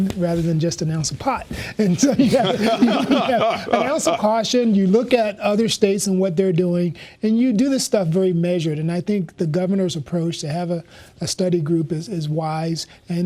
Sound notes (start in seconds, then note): 2.0 laughter